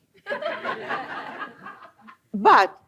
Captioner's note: laughter